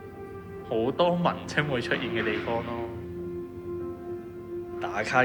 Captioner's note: Cantonese